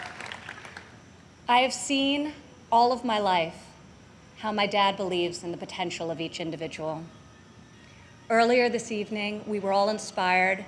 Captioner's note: applause